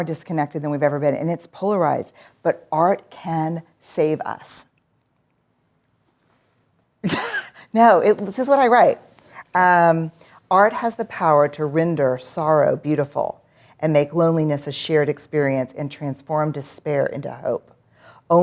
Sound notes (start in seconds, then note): 7.3 laughs